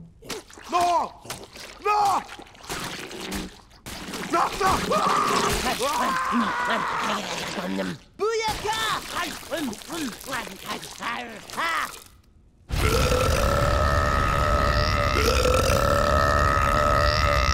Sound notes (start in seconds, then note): 4.6 screaming; 12.7 belching